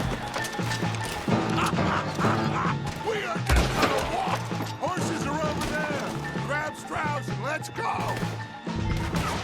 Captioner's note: laughs